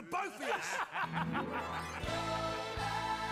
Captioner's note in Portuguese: men laughing